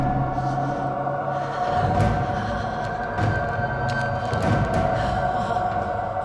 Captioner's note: Elaine shivers and moans; dark intense music